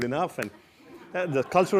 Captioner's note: laugh